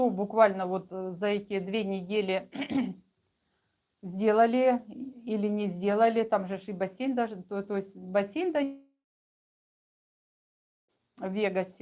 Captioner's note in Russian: откашливается